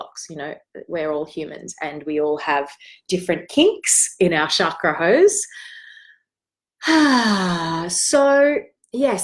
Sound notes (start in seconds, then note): 6.8 exhales